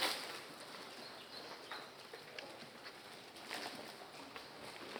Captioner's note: birds chirping